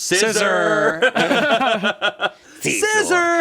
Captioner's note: everyone laughs